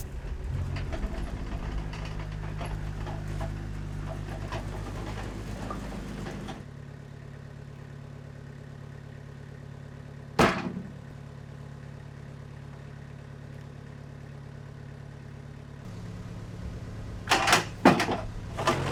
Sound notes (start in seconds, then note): 0.0 engine revving; 10.4 slab thuds